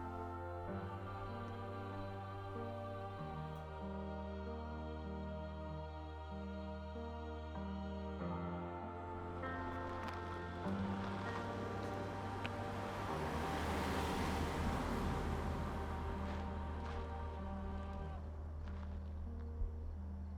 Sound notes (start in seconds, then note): 0.1 poignant music continuing to play; 10.3 car engine roaring; 15.7 poignant music continuing to play